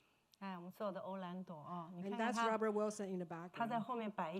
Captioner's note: speaking Mandarin